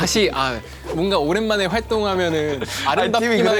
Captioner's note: haha